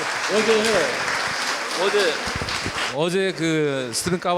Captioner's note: applause; speaking in foreign language